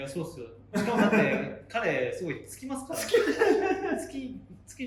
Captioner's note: laughs